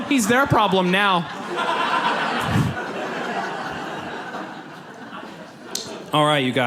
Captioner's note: audience laughs